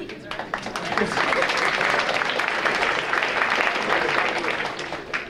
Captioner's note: audience applauding